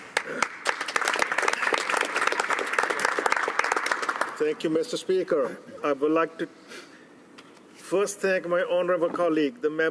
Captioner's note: applause